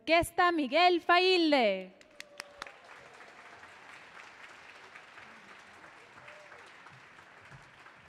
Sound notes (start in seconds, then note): 1.9 audience clapping